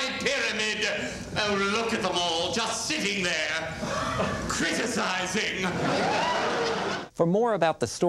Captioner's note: laughter